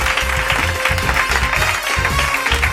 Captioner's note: applause